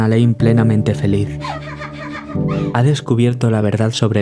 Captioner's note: laughs